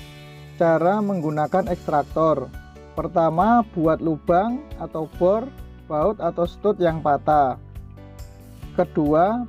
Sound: drill

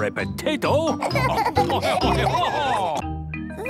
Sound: laughing

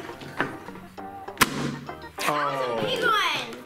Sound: airzooka explodes

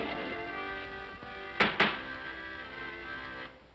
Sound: bangs on desk; accordion plays

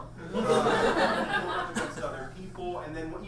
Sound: audience laughs

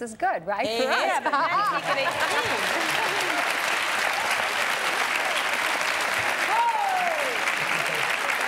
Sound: applause

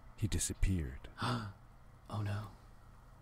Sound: gasp

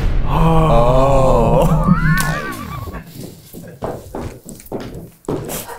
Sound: gasps; laughs

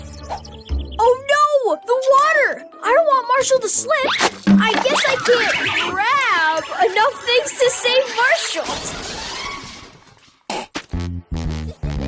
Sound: crash

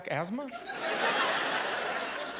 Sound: laughter

